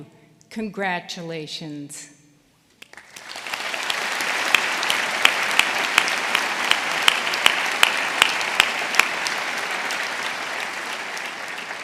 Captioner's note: applause